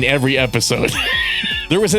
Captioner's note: laughter